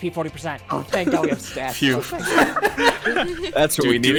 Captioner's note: multiple people laugh